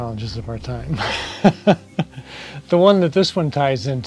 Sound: chuckles

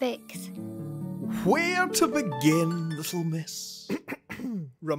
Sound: clears throat

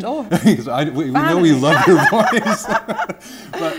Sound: laughter; murmurs

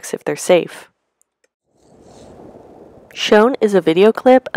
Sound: tree branches rustling softly, birds chirping in the distance

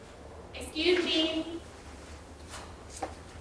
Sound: woman's Voice

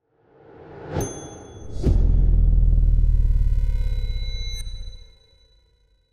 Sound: bell dinging; air whooshing

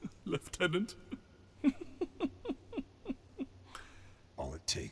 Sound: laughs

